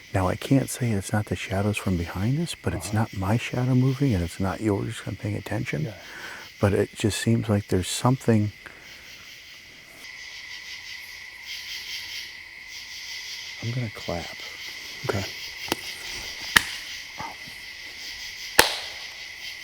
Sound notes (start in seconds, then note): 9.4 insects chirping; 17.0 person clapping